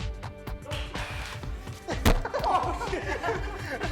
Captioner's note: giggling